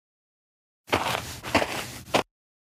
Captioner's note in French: FX - Footsteps - On Multiple Dirt - Walk